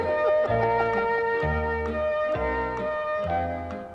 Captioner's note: debaters laughing